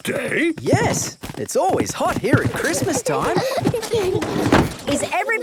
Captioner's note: kids giggling